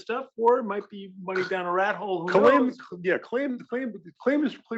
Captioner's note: laugh